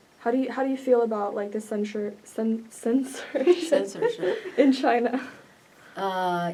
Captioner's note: laughs